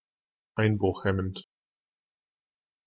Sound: fast Pronunciation

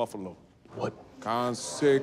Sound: students chattering

